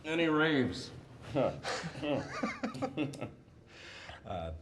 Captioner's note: laughing